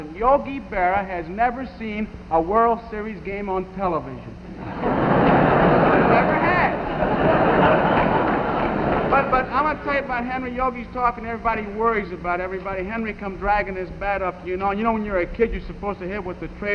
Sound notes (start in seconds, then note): 4.5 audience laughing